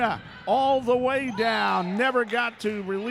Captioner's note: referee whistling